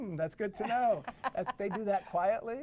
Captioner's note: laughs